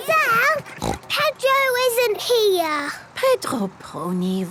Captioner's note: snort